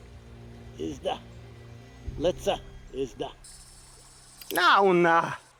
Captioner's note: Ishmael speaking Native American language; Two Moons speaking Native American language